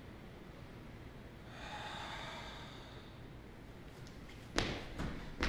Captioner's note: exhale